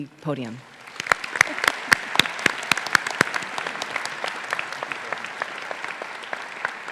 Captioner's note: faculty, graduates, and audience applauding